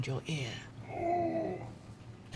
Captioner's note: gasps